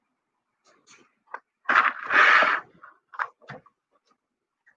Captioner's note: turns page